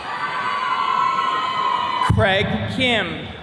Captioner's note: attendees cheering